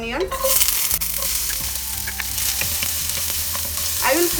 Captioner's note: pan sizzling